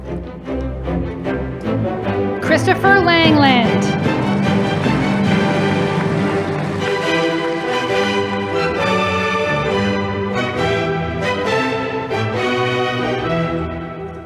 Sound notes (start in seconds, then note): 3.8 audience applauding